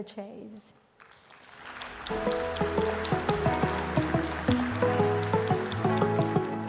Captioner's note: audience applauding; pleasant music